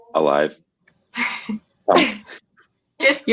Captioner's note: laughs